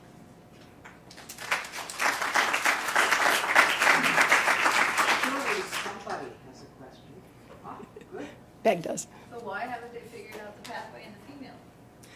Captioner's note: applause